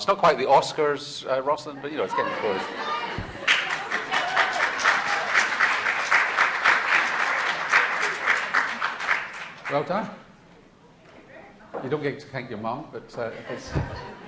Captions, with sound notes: It's not quite the Oscars, Roslyn, but it's getting close. [SHOUTS] [CHEERS AND APPLAUSE] Well done. You don't get to thank your mum, but--